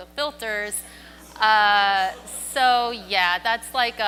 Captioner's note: audience groans